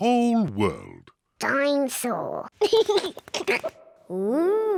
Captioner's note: giggles